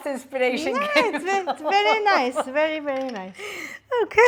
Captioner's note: laughs